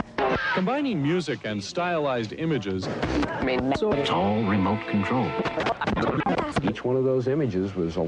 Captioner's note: static/channel changing